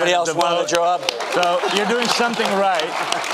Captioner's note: audience applause